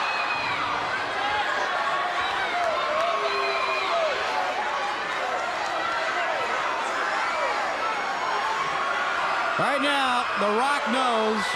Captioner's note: crowd cheering